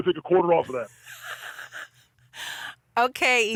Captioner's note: laughs